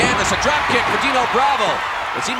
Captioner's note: audience cheering